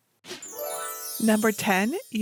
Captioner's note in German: sanft läutende Glocken